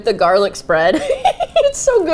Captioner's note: giggles